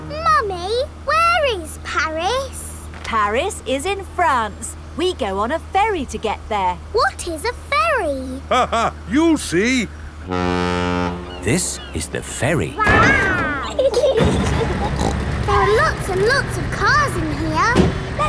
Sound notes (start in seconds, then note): 8.3 laughing; 10.2 ferry horn blows; 12.8 giggling; 14.3 snorts